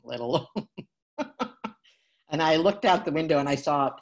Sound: laughs

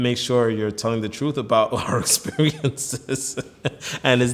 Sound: laughs

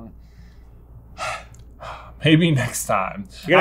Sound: sighs

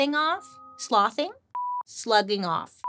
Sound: screen beeps

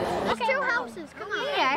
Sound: sound of kids playing

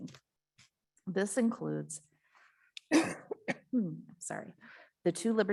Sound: coughs

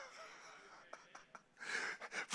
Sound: preacher laughing

